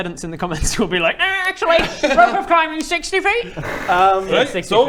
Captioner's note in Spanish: voz nasal